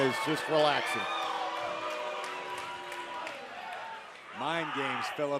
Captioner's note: crowd cheering